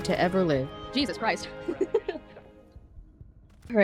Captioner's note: nervous laughter